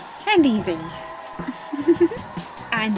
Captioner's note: chuckles softly